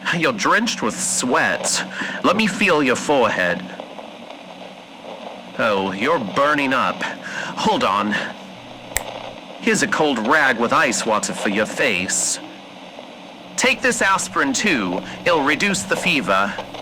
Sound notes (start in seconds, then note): 8.9 snap fx